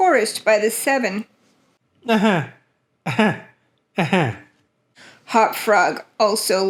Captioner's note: Hop-Frog laughing